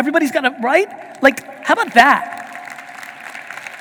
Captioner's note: audience applauding